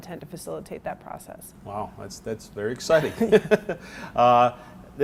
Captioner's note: both laugh